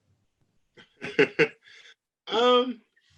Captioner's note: laughs